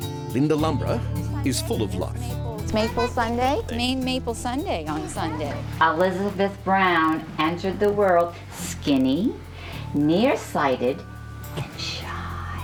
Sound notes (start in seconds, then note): 2.7 chatting